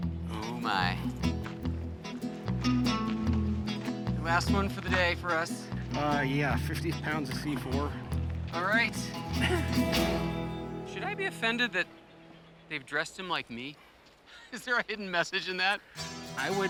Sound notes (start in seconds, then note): 9.2 chuckles; 14.3 laughing